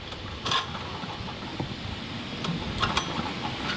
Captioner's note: machine squeaks